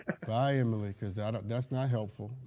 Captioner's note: laughs hysterically